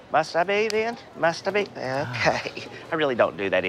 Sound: laughing

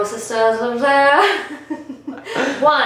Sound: both laughing

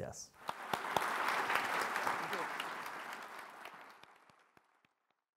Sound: audience applauding

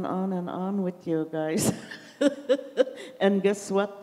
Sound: laughs

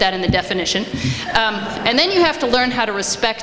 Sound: audience laughs

